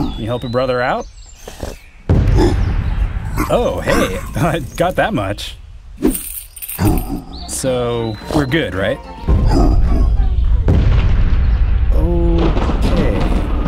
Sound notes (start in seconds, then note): 3.3 grunting; 6.0 coins jingling; 10.0 music fades out